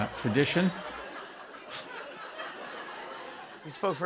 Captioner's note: laughter